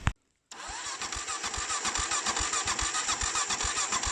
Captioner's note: bike engine not starting